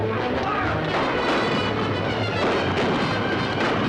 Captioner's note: gunshots